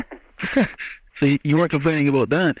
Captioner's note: laughs